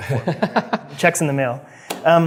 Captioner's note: laughs